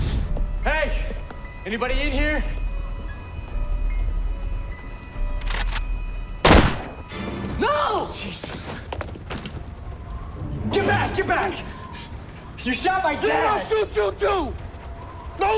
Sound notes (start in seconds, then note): none